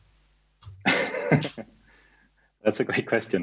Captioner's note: laughter